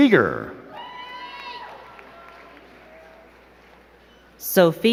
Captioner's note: crowd cheering and clapping